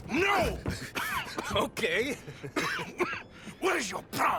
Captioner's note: laughs